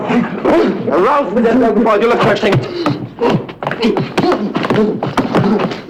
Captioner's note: speaking foreign language